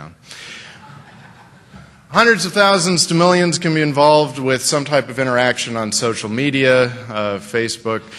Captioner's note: laughter